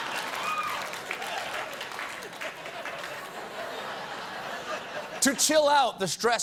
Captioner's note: applause; laughter